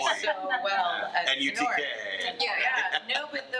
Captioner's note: attendees chattering